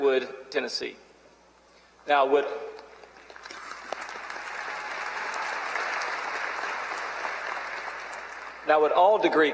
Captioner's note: applause